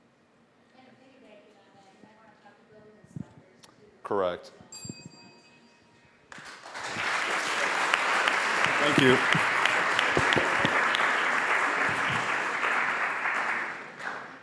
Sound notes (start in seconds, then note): 4.7 bell dings; 6.5 applause; 9.9 applause